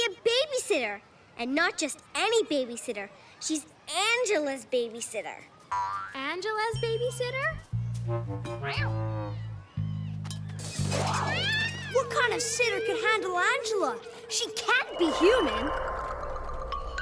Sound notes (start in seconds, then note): 10.8 fang screeches